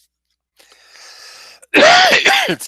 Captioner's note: coughing